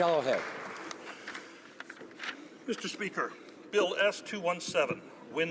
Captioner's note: applause